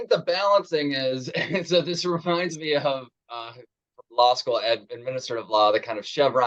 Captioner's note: chuckles